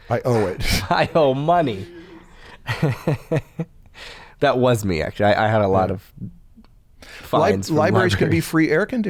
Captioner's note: chuckles